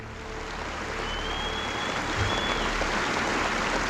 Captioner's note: applauding